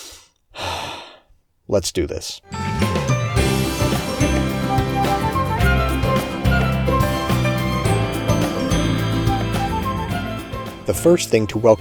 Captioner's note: sigh